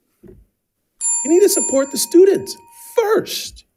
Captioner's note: bell ringing